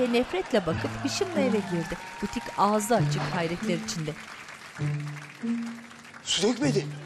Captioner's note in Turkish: Fonda çığlık ve alkış sesleri